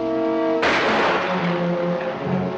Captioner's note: firing